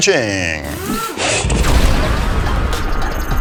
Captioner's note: power drilling